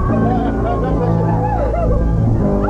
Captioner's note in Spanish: Llora